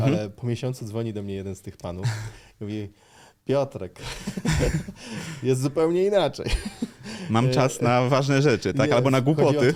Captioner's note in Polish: śmiech